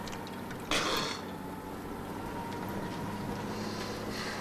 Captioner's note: Latrell spits